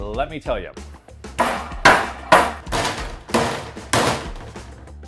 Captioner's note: rolling pin banging